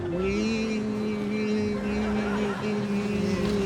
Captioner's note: laughter